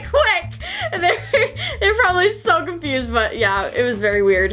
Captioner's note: laughing